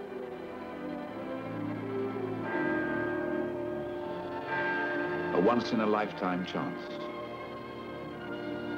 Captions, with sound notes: (bells chiming) A once-in-a-lifetime chance.